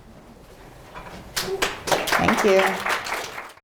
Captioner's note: audience applauding